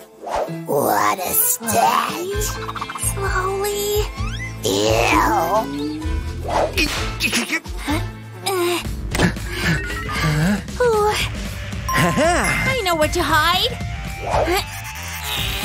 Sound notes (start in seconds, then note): 10.0 moaning; 10.3 making angry sounds; 14.2 making frustrated sounds